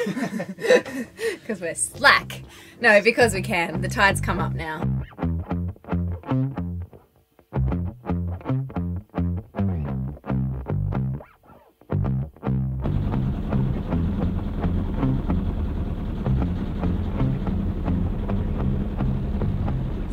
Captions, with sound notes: (laughs) 'Cause we're slack. No because we can, the tide's come up now. (upbeat electric guitar music) (boat engine whirring)